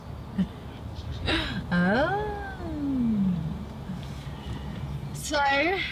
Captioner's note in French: rit nerveusement